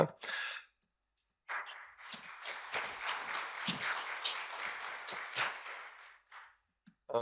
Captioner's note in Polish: oklaski